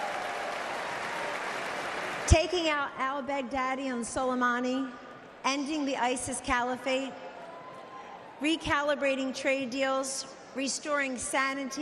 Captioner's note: applause